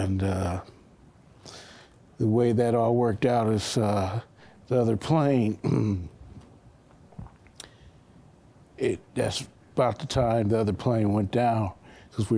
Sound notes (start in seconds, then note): 5.6 clears throat